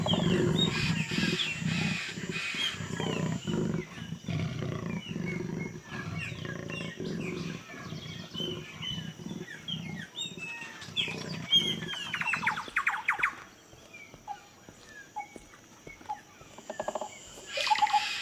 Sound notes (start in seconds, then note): 3.6 bird calls become louder